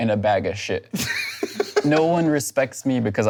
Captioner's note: laughs